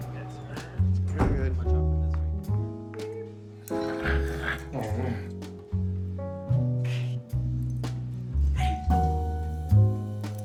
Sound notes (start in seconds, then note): 0.2 gentle jazz music; 4.1 Mark snoring; 5.6 gentle jazz music